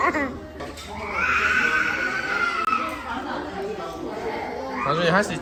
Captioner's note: starts to hear crying